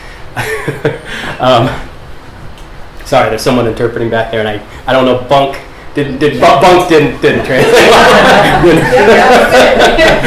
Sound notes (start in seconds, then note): 0.4 laughs; 7.4 laughter; 10.0 chuckles